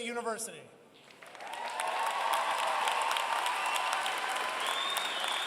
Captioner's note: applause